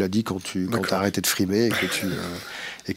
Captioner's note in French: rires